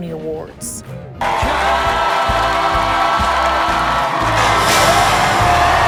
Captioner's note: music and applause